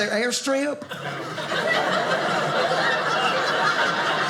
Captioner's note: audience laughing